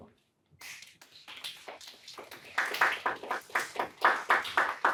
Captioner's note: applause